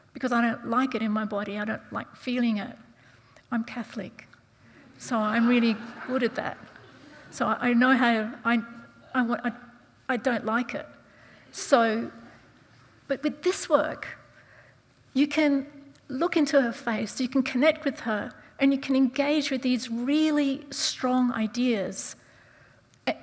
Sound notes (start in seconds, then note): 4.8 audience chuckling